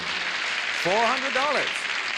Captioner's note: applause